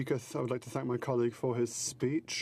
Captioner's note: speaking french